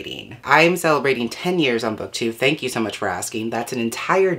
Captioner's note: voiceover